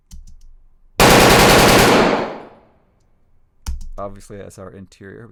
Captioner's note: gun fires multiple times